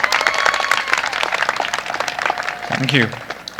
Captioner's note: applause